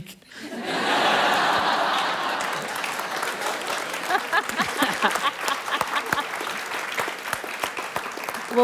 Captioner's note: laughter and Applause